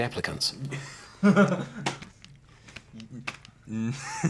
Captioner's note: Max laughing